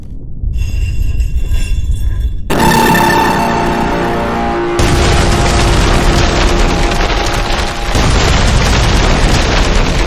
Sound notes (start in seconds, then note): 2.4 ominous music; 2.5 lasers blasting; 6.0 explosion booming